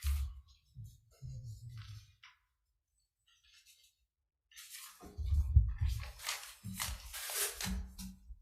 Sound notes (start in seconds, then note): 3.6 papers shuffling